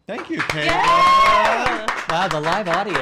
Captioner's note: cheering and applauding